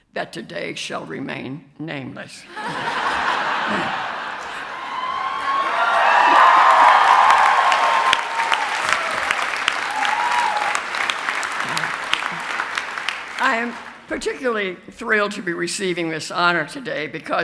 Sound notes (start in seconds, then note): 2.5 audience laughs; 5.1 cheers